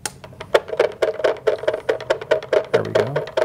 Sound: rattling

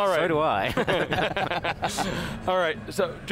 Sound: everybody laughs

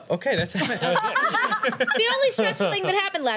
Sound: laughter

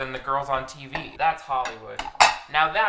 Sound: plates clattering

